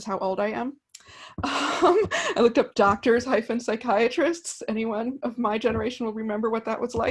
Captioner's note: laughs